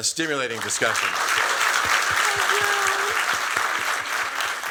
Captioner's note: applause